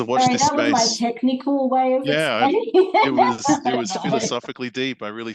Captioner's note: laughs